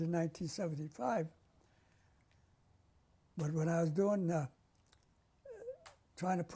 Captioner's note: pauses for 3 seconds